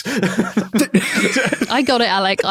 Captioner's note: guys giggling